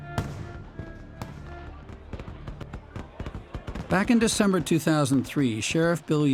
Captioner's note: voice-over